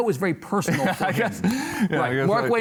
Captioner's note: laughs